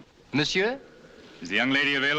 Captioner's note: speaks french